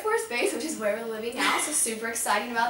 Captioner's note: laughs